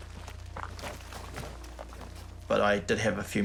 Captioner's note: gravel crunches